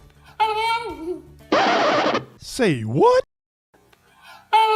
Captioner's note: voiceover